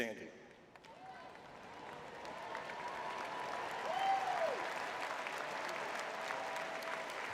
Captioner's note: audience cheering